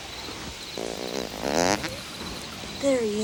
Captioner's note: gang member farts